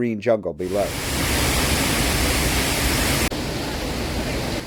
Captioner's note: water rushing